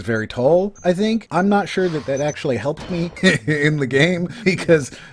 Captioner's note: laughs